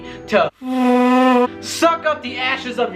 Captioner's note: vacuum sucking